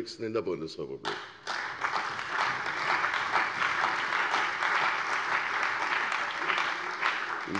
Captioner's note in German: Beifall bei der CDU und dem BÜNDNIS 90/DIE GRÜNEN